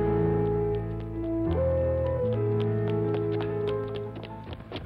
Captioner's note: footsteps